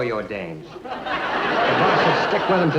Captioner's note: audience laughs